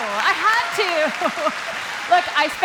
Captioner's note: applause